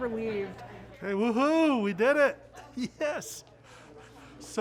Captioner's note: chuckles